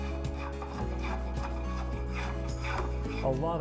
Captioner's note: scraping